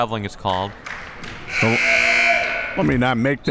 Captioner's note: buzzer